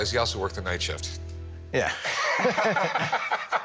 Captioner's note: laughing